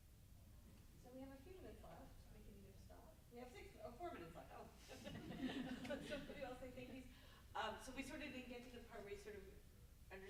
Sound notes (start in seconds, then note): 4.9 group laughs